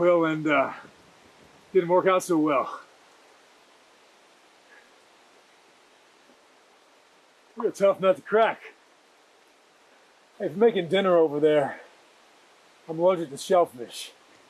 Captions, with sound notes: and, uh, it didn't work out so well. [rain trickling in distance] You're a tough nut to crack. If you're making dinner over there, I'm allergic to shellfish.